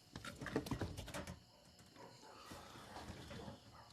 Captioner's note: door rattles